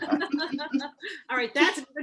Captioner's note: group laughs